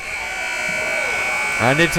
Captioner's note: timer buzzes